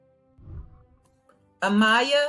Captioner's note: whooshing